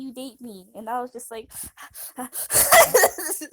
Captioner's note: heavy breathing insues; laugh